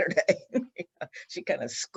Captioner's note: laughs